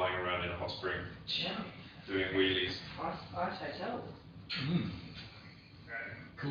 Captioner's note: audio distorts